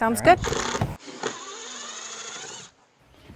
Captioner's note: drill whirring, no additional audio